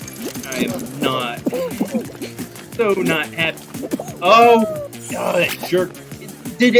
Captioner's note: groan